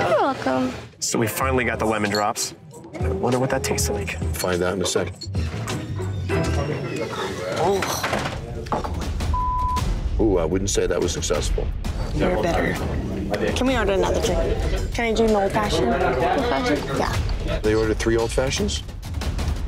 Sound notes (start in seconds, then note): 9.3 beeping